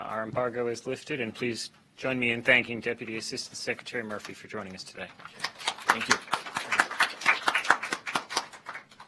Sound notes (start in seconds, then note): 5.3 applause